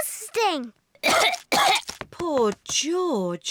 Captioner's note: coughs